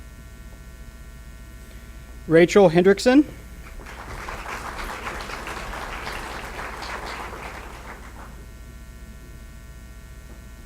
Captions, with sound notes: Rachel Hendrickson. (applause)